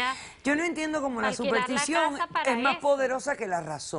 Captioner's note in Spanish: Hablan al unísono